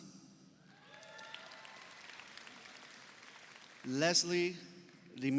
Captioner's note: audio applauds